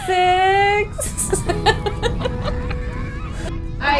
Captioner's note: laughing